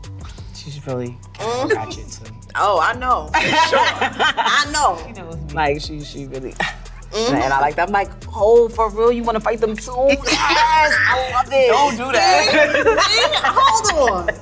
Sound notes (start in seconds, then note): 10.0 laughs